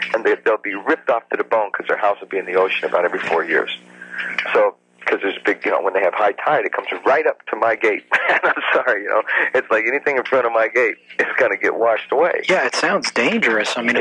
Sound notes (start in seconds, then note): 8.0 laughs